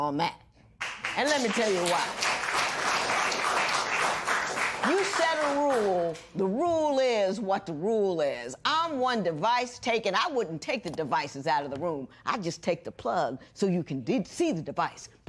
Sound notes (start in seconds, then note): 3.1 applause